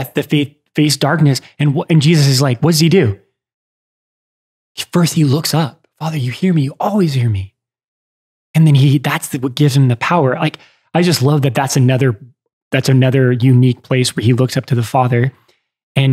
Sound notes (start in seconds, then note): none